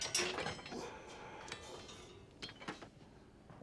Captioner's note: metal clanging; Tyler sighs